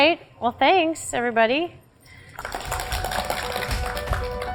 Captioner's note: applause